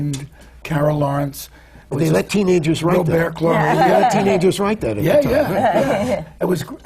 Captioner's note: laughs